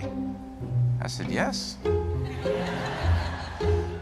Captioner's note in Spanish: risas